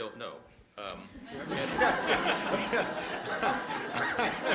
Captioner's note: laughter